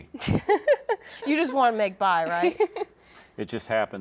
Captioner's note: laughs